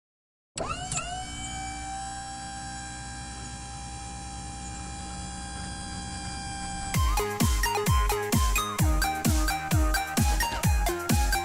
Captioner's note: electrical lift noises